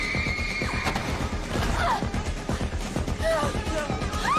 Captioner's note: screams; grunts